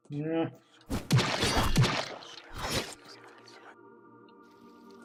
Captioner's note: creepy whispers